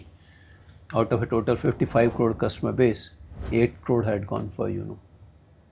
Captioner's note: swishing sound